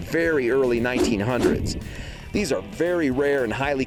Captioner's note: swooshing